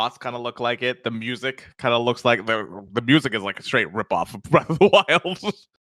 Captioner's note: laughs